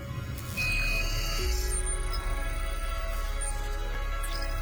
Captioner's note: electronic beeping